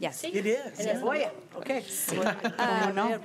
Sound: crowd Commotion

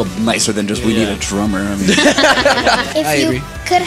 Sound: laughter

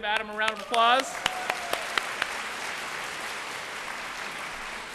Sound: applause

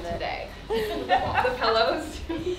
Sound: laughing

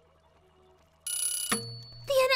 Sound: ding

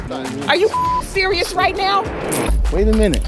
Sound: beep

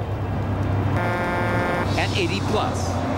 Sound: horn blares

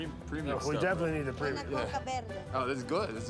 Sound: speaking Spanish

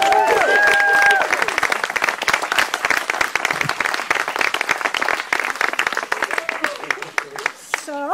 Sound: applause

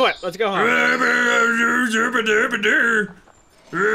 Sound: Bigfoot Noises

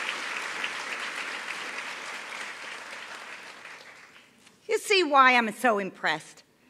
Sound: applause

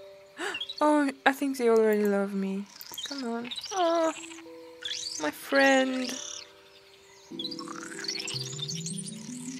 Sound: gasps

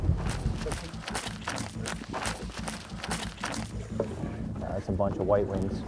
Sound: flapping

